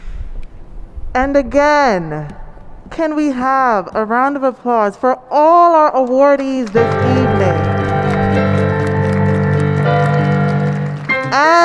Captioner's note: applause, cheers and ♬♬ piano ♬♬